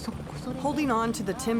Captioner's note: speaking Japanese